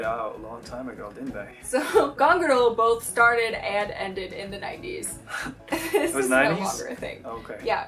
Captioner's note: laughs